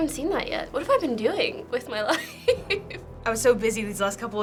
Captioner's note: laughs